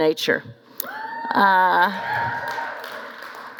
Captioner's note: cheering